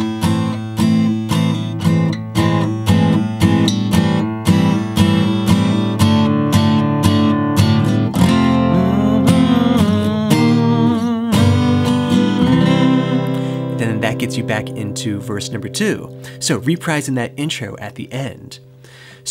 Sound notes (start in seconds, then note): 0.2 gentle acoustic guitar music; 8.3 humming